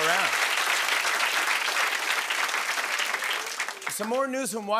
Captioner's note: applause